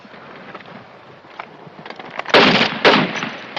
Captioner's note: gunshots